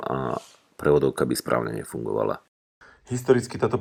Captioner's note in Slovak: smrkanie